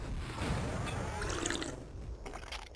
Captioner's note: slurp